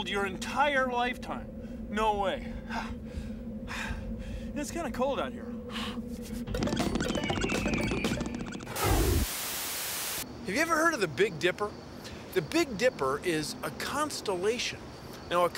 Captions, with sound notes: IF YOU TRAVELED YOUR ENTIRE LIFETIME, NO WAY. [ PANTING ] IT'S KIND OF COLD OUT HERE. HAVE YOU EVER HEARD OF THE BIG DIPPER? THE BIG DIPPER IS A CONSTELLATION.